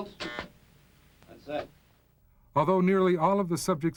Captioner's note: buzzes